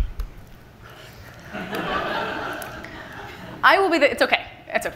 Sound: laughter from the audience

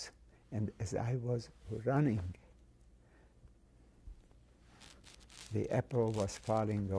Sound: pauses for 3 seconds

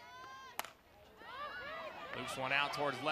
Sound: ball hitting bat

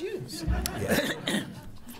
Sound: laughter

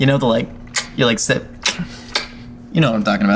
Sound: lips smacking

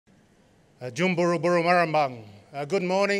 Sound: non-english speech

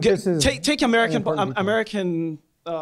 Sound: voiceover

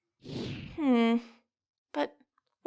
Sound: none

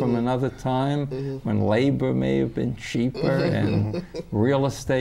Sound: laughter

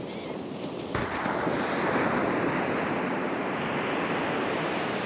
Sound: laughing Gull calls

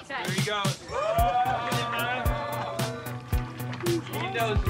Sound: upbeat music playing; all cheering

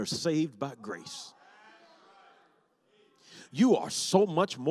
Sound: congregation shouts

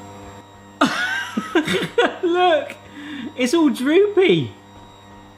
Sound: laughs

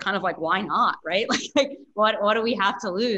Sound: giggling

